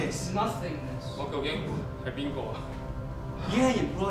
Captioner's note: speaking in a foreign language